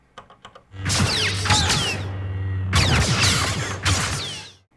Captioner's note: blaster pistols and light sabres